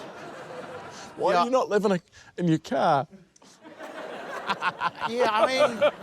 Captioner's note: stifles chuckle; laughter